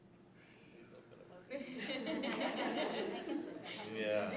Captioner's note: laughter